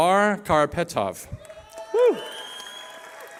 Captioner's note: cheering